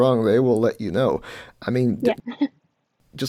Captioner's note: laughs